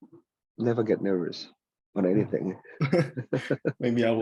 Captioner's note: laughs